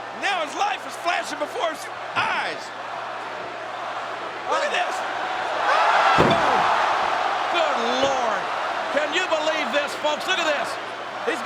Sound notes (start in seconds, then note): 6.0 crowd roars; 6.1 body thuds